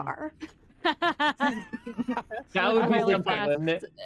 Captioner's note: laughter